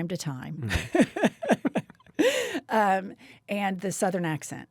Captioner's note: Jennifer laughs